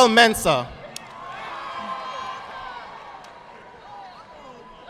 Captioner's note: audience applauding